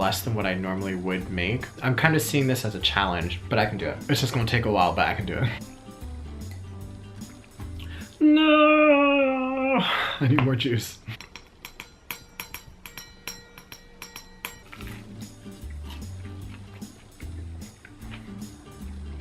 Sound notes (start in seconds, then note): 10.9 metal clanging